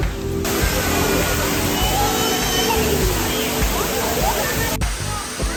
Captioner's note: people chattering; water rustling